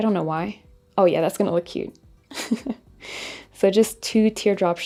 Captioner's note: chuckles